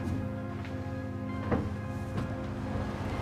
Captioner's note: footsteps thumping; car whooshing